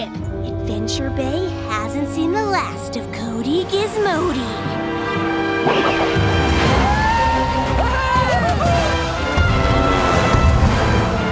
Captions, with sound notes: Adventure Bay haven't seen the last of Cody Gizmody. [cheering]